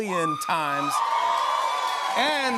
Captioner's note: cheers and applause